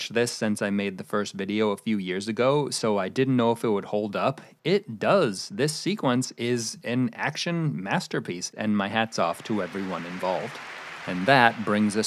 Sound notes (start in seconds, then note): 9.3 applause